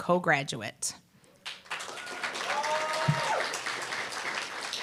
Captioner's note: applause, cheer